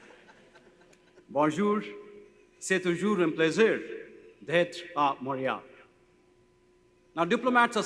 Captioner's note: laughter; speaks in foreign language